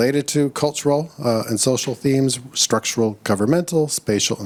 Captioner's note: none